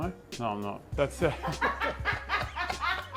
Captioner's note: laughs